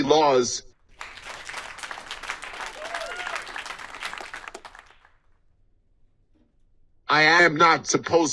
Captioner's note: audience applauds